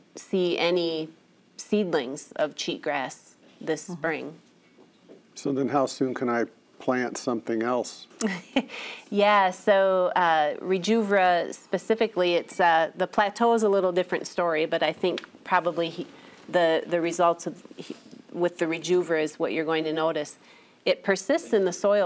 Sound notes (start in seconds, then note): 9.8 laughs